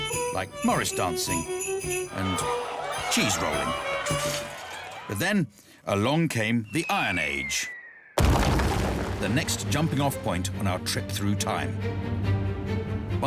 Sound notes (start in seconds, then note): 8.2 crash